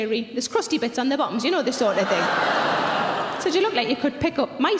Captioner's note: audience laughing loudly